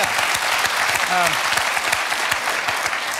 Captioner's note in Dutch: applaus